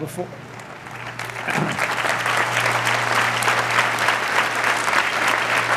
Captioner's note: applause